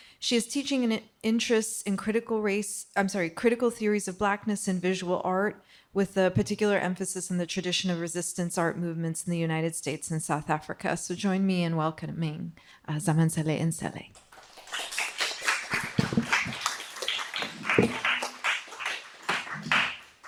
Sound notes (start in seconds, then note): 14.1 audience clapping